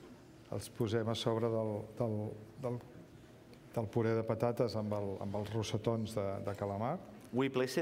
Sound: speaking catalan

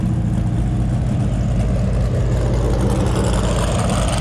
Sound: engine humming

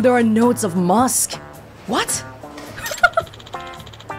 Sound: laughs

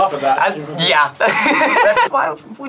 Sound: laughs

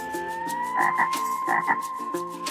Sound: croaking

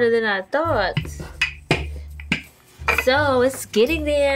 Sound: rolling dough

